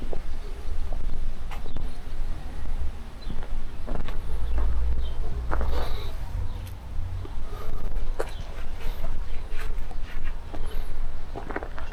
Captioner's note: birds chirping; wind blowing